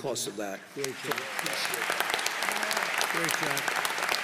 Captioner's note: applause